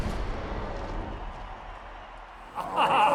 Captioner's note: crowd cheering; laughs